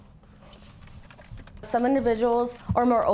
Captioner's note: keyboard clacking